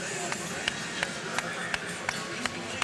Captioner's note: person clapping